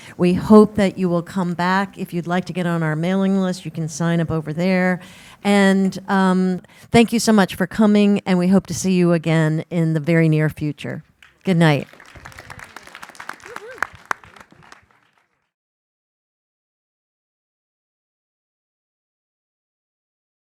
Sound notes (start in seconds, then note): 11.1 applause